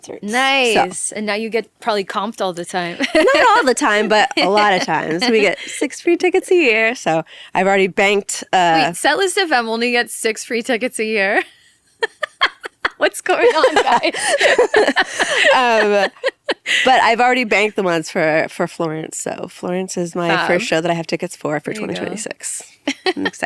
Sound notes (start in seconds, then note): 2.8 laughs; 11.9 laughing; 14.0 people laughing